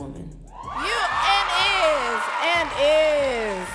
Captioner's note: audience cheering and clapping